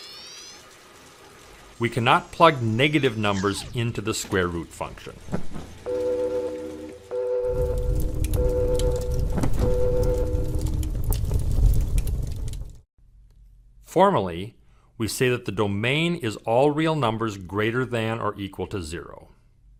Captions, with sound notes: We cannot plug negative numbers into the square root function. (machine beeping) (fire blaze roaring) Formally, we say that the domain is all real numbers greater than or equal to 0.